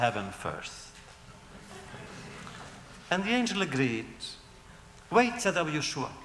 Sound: laughter

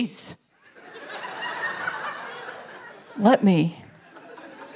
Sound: laughter

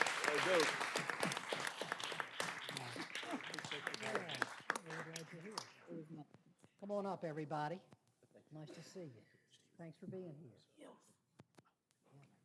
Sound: applause

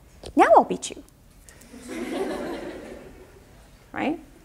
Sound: audience laughter

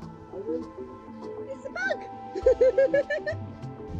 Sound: laughing

